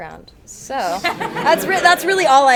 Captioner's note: attendees laugh